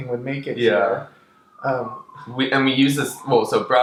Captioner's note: police siren